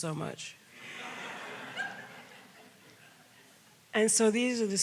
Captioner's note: audience laughs